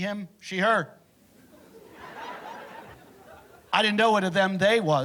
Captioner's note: laughter